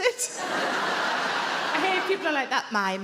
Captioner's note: audience laughing